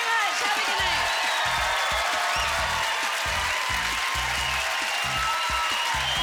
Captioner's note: cheers and applause